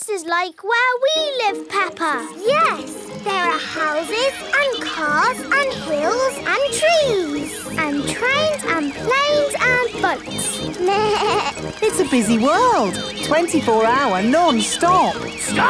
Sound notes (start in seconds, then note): 10.8 bleats